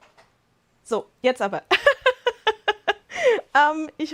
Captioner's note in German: Lachen